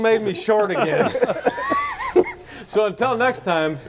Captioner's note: everybody laughing